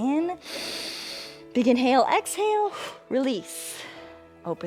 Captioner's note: inhales